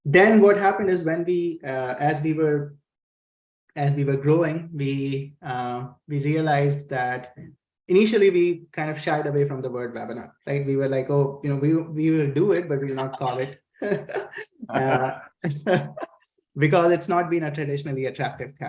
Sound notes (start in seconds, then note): 13.8 laughs